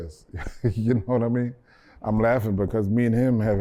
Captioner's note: laughter